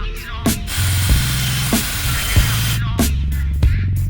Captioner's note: machine whirring